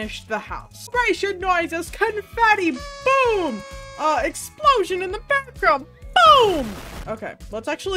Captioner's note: crowd cheering; confetti pops